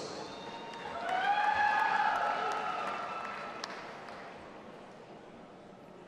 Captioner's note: audience applauding and cheering